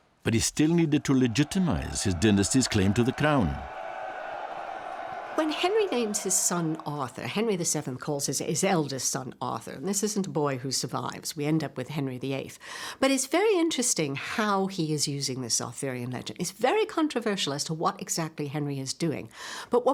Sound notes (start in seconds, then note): 3.7 crowd cheering